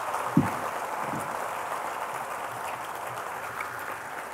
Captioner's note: Applaus